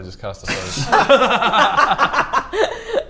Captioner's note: laughter